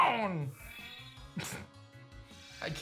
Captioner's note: giggles